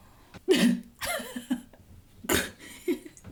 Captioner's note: laughing